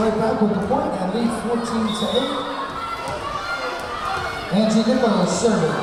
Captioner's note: whistle blowing